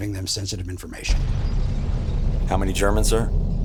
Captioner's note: bomb rumbling